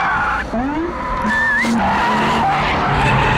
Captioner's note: whistles